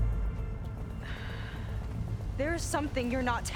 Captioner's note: sigh